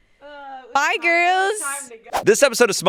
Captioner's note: screen whooshes